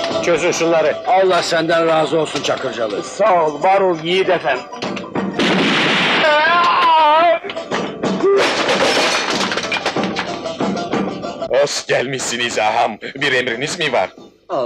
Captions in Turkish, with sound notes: - Çözün şunları! - Allah senden razı olsun Çakırcalı! Sağ ol, var ol yiğit efem! [Silah sesi, çığlık] Hoş gelmişsiniz ağam, bir emriniz mi var?